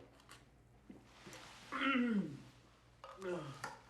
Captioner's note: groaning